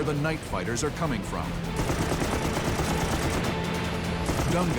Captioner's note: guns firing